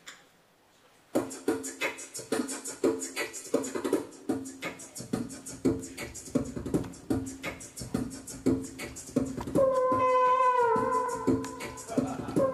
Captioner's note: beatboxing